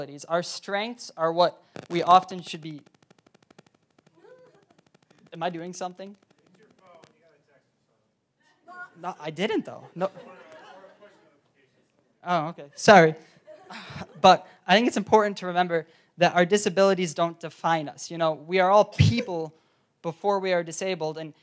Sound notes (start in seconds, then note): 4.1 laugh; 13.2 laugh